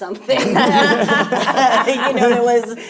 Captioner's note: panelists laughing